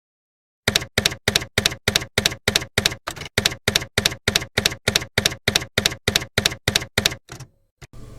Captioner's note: typewriter keys clacking